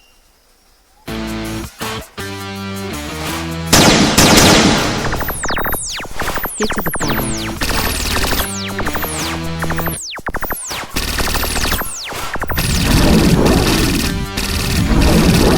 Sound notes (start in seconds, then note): 1.1 bright rock music; 3.8 guns blasting; 12.6 portal whirring